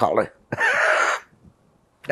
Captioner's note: laughing